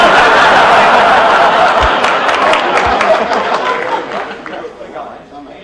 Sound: laughter

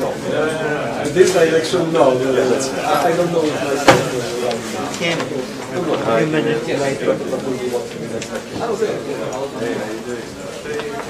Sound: background chatter

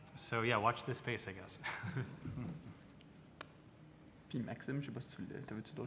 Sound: laughs

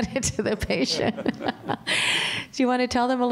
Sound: laughter

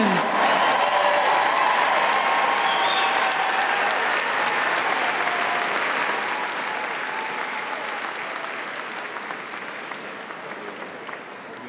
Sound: applause and cheering

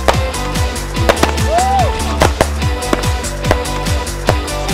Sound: fireworks exploding; festive music

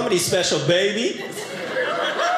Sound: audience laughing

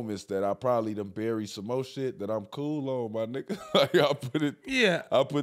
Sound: laughing

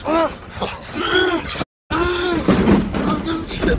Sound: zombie sounds

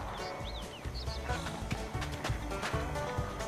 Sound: steps

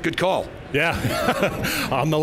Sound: laughs loudly

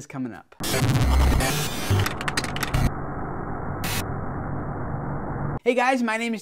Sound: static

